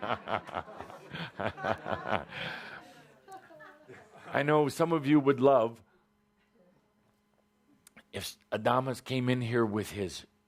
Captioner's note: laughter, Kuthumi chuckling